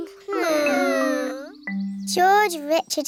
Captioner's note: whining